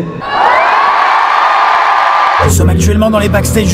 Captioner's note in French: Bruit de foule